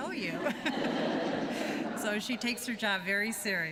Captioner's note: laughter